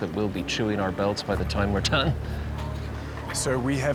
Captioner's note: laughs